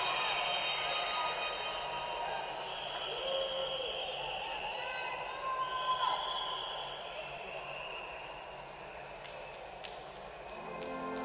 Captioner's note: cheers and applause